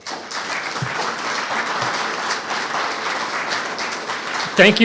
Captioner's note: audience clapping